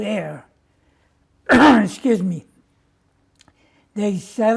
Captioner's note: clears throat